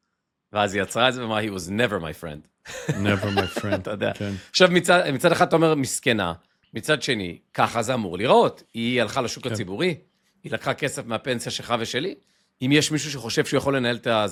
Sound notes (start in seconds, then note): 2.6 laughter